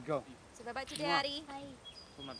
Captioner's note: kissing sound